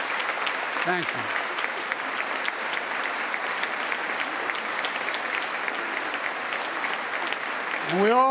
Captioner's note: applause